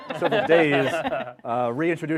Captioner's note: laughing